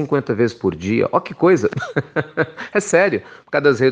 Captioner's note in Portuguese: risos